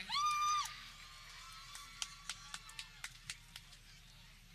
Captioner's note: people cheering